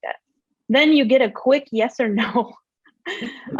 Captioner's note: laughs